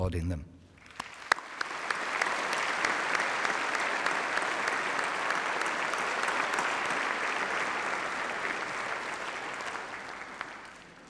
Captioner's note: applause